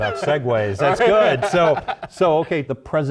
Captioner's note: laugh